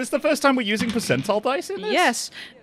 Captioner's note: dice clacks